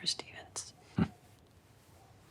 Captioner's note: Christopher chuckles